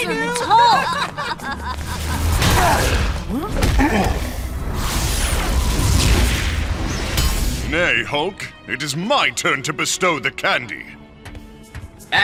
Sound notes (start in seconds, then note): 0.1 laughs; 2.5 grunts; 5.7 whooshes